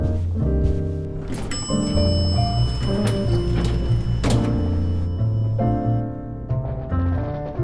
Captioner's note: the lift dings, and doors clang open